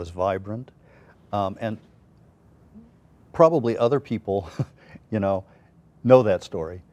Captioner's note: laughs